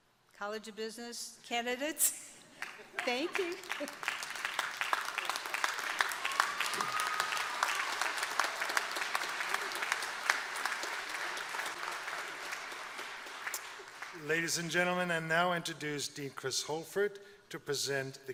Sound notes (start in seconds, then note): 2.5 applause